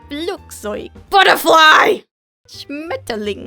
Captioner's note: calm voice; intense screaming; calm voice